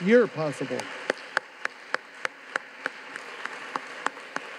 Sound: audience claps

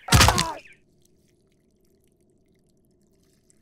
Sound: thudding; groaning

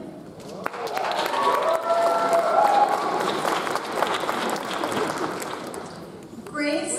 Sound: audience applauds; audience cheers

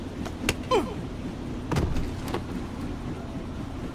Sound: enemy shriek

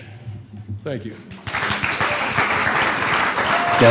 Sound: cheers and applause

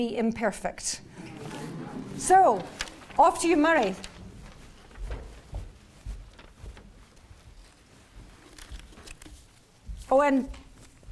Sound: laugh

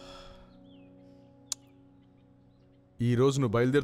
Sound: gasps; clicks tongue

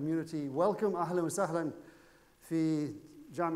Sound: speaking foreign language

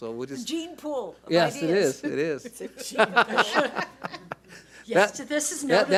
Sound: laughs

